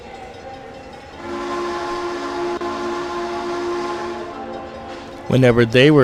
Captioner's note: Frisco 1522 whistle